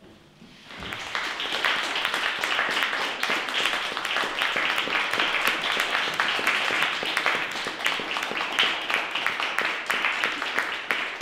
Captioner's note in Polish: oklaski